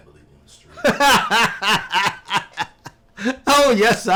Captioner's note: Errol laughing